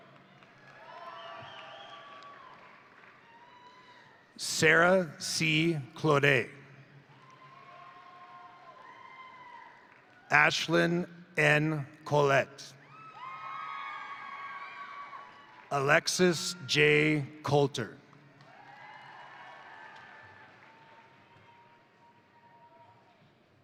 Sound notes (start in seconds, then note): 0.0 crowd applauding; 0.1 crowd cheering; 7.0 crowd applauding; 7.1 crowd cheering; 12.8 crowd cheering; 14.4 crowd applauding; 18.2 crowd applauding; 18.4 crowd cheering